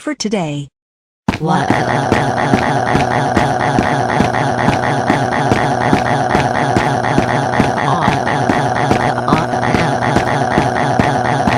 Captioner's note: crying